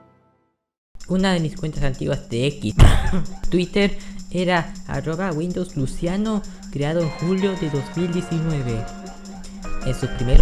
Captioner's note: cough